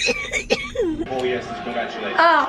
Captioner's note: coughing; tv in background